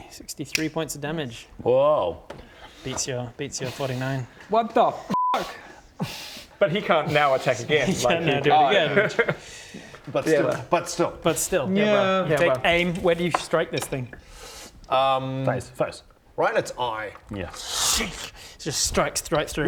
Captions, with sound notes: 63 points of damage whoa beats your 49 What the f***? but he can't now attack again like he can't now do it again but still but still but still yeah take aim, where do you strike this thing? um face right in its eye yes *schchh* just strikes right through